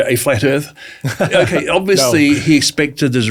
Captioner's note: laughs